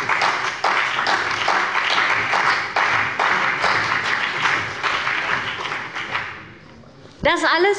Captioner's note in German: Beifall bei dem BÜNDNIS 90/DIE GRÜNEN und der CDU